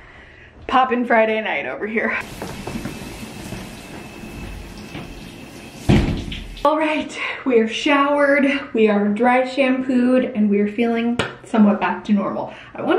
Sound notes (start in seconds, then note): 2.2 water running from shower tap; 4.5 shower door closing